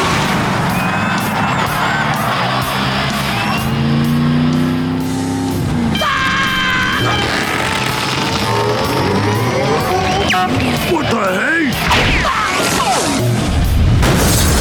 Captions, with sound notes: [cheering] [screaming] What the hay?